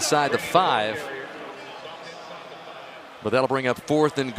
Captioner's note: pa announcement